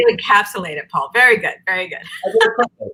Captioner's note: laughs